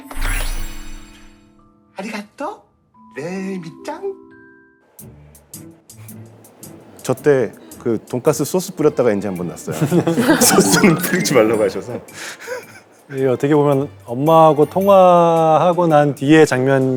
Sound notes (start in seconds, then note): 9.6 laughing